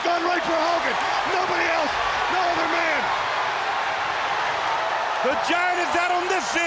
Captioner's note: crowd cheering